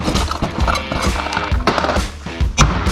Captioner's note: saw crashes on the ground; board slams onto the table